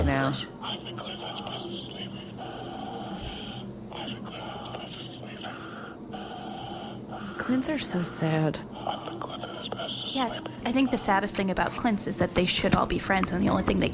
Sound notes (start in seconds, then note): 6.6 whispering; 8.6 quiet C.L.I.N.T. breathing continues; 10.4 whispering